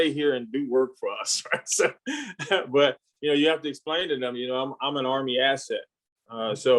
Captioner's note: laughs